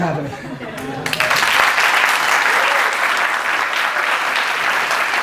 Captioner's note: audience applause